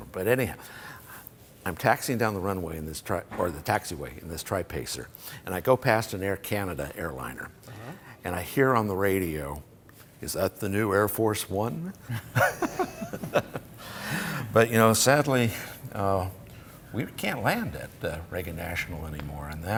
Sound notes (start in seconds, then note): 12.1 laughter